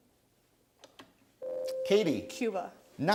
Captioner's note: ding